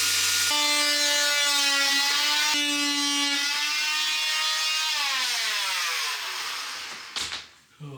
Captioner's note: saw buzzing